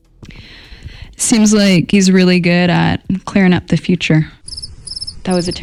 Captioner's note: crickets